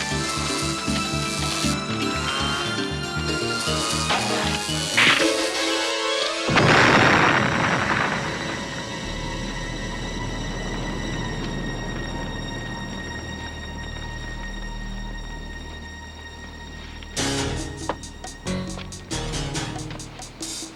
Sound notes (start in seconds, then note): 6.5 explosion booming; 6.8 tense music; 17.6 suspenseful music